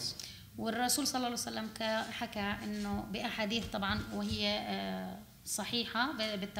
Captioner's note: speaking arabic